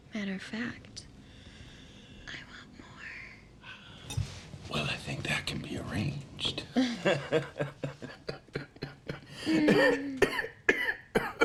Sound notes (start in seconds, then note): 6.8 laughs; 8.0 coughs